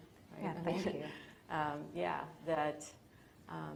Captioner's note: lightly laughs